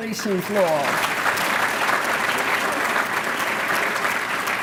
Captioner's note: applause